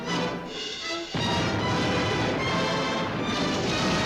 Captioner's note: dramatic music; cannons firing